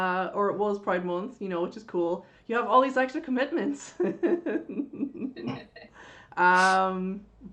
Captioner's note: laughs